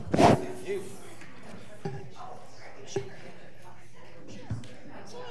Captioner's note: audience talking quietly